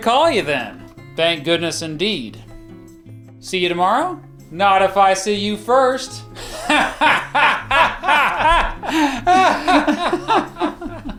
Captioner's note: hahahahahahaha